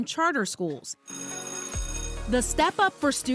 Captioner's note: bell ringing